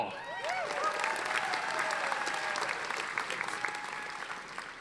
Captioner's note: audience applauding